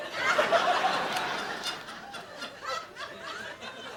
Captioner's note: audience laughing